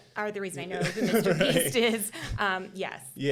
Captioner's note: chuckling